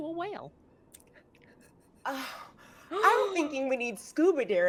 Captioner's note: person chuckling; person gasping